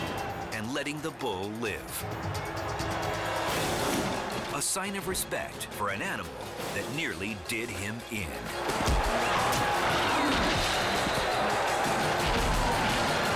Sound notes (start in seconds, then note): 8.6 blows thud; 10.0 crashes